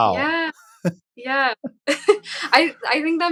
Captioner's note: chuckles